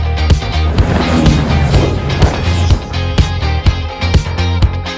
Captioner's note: motorcycles passing